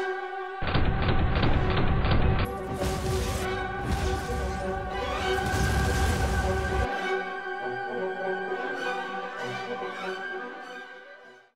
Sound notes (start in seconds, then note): 2.4 boom